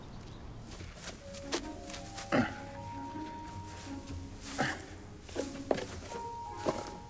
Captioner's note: light music; tinsel rustling